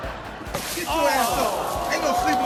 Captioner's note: audience laughs; all groan